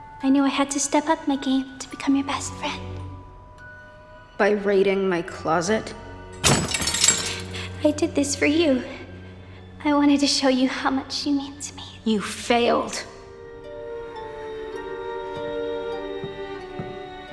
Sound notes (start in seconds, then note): 6.4 weapons clanging; 14.7 somber music